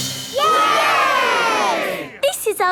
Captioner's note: all cheering